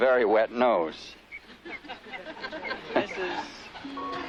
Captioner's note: laughter